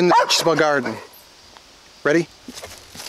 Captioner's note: barking